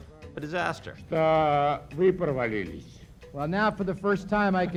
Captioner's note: Yeltsin speaking Russian